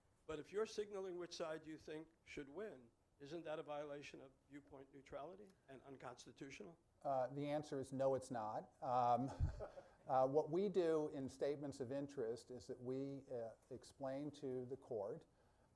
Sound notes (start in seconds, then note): 9.0 laughs